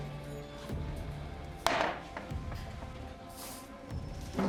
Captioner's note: tense music; bottle thuds